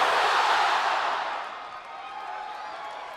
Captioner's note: crowd cheering